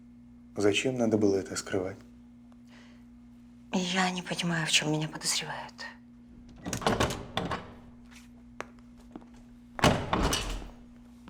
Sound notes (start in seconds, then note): 6.4 door clicks open; 9.8 door clicks shut